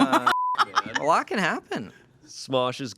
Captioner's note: beep; laughs